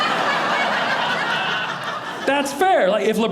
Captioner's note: audience laughing